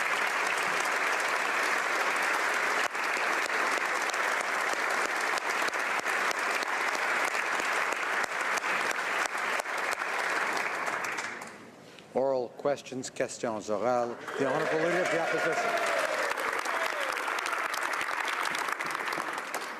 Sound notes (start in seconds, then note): 4.9 applause